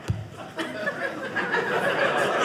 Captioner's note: audience laughing